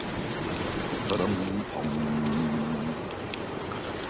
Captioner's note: hums to himself